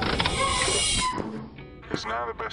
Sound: hatch closes

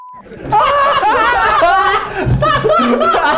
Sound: all laughing

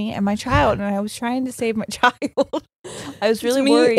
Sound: laughs

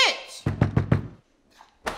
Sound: knock knock

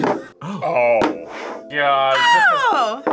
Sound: gasps

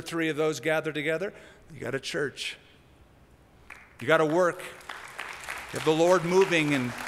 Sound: applause

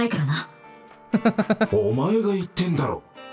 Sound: chuckles

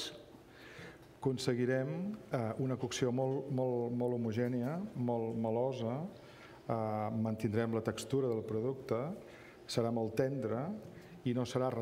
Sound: speaking catalan

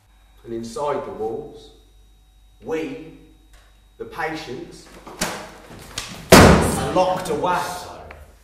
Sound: cast whispers

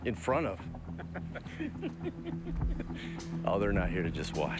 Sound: group laughs

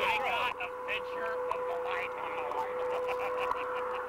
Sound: laughter

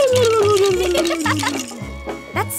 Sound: wailing; giggling

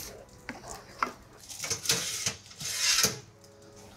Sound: tray scrapes

